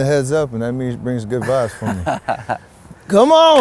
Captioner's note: laughs